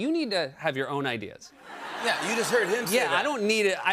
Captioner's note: laughter